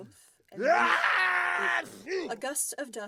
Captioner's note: giant, loud, drawn out “achoo”